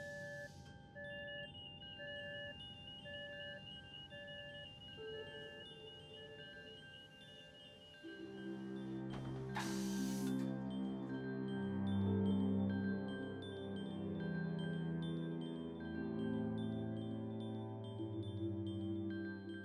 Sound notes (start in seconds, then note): 1.0 alarm sounding; 9.8 soft music playing; 11.3 air hissing